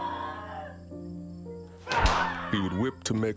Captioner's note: screaming